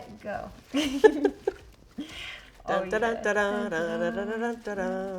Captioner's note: both laughing and humming